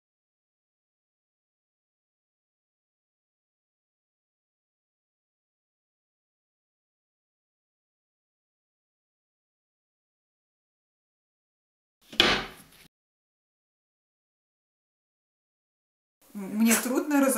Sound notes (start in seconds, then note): 12.1 sound of closing the nightstand